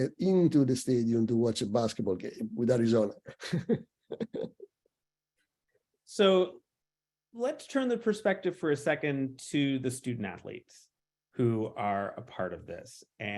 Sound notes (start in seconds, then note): 3.2 chuckles